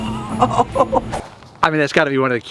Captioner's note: laughs